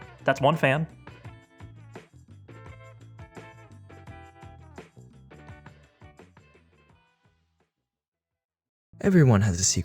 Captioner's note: dramatic reading